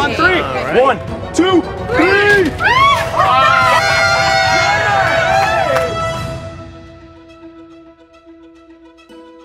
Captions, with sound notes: One... two... three! (cheering)